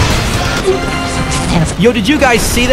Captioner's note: Radio tuning sounds Tunesanity